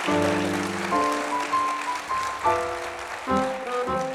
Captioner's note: applause